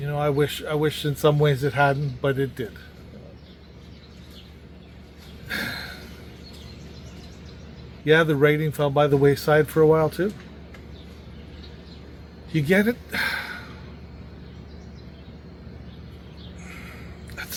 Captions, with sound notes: You know in some ways I wish it hadn't, but it did. [sigh] Yeah the writing fell by the wayside for a while to. You get…[heavy sigh]..